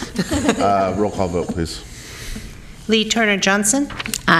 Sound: laughter

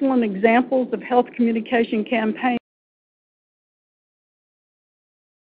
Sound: audio break

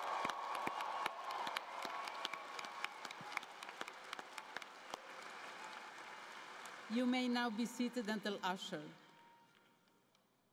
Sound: cheering and Applause

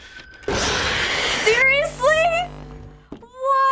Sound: in game: growl

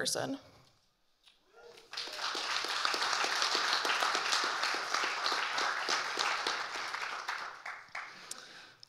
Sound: audience cheering and applauding

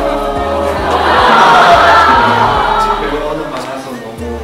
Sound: haha

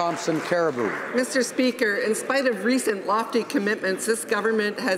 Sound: some Applause

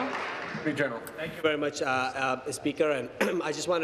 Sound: applause

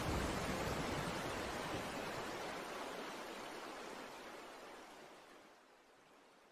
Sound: storm slowly fades out

